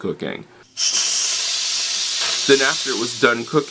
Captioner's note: steam sound